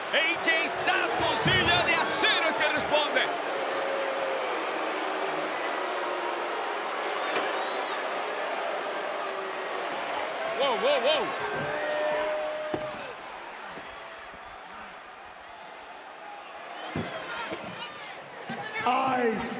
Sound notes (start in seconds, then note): 0.0 applause; 3.9 applause